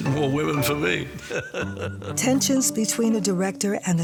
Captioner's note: chuckles